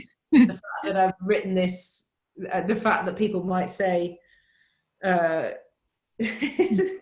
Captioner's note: laughs; laughs